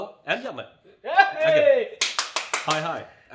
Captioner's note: cheers loudly